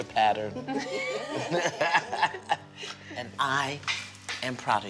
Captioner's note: laughter